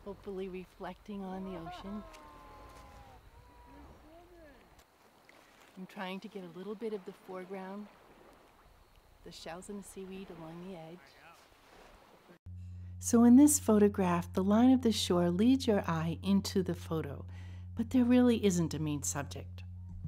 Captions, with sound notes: hopefully reflecting on the ocean. (people cheering in the distance) I'm trying to get a little bit of the foreground, the shells and seaweed along the edge. So in this photograph, the line of the shore leads your eye into the photo, but there really isn't a main subject.